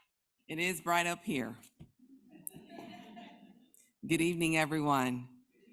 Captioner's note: crowd laughs